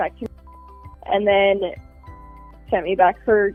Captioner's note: beep